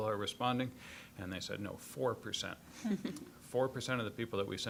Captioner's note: scattered chuckling